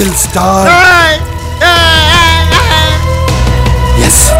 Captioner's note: Deewana screaming